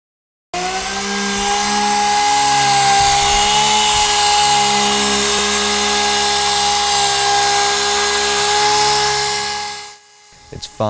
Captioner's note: noise from sander